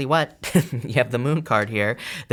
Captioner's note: chuckling